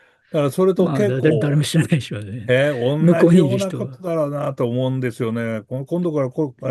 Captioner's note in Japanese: 笑い